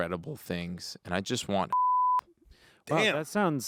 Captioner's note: beep